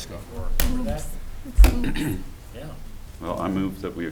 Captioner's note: board members chattering